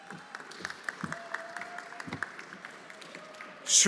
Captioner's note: everyone applauding